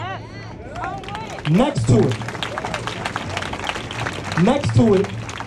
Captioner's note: applause